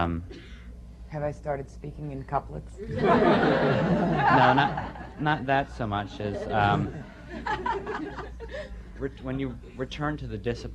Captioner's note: laughter